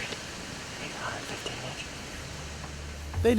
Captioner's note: whispering